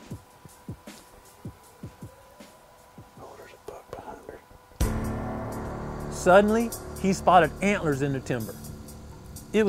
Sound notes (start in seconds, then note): 3.3 whispering